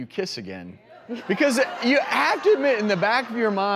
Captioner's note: audience laughter